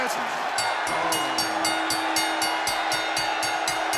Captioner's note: bell rings